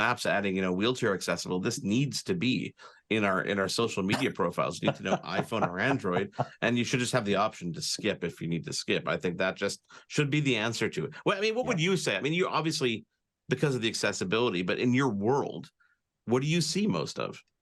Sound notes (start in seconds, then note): 4.0 laughing